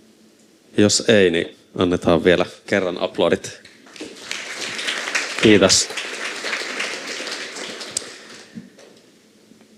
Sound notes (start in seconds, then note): 3.8 Aplodeja